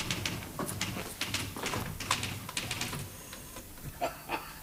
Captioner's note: typewriter clacking; Rumpole laughs